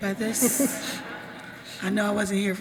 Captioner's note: audience laughs